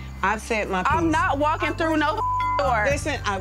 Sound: beep

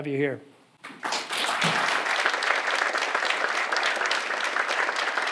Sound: audience applauding

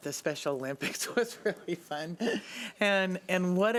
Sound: laughs

